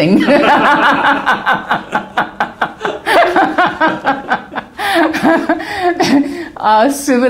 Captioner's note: laughter